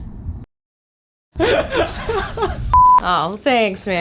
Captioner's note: laughing